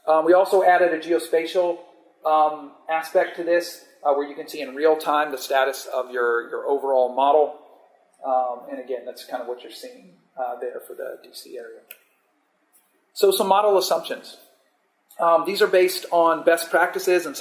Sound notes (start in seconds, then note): none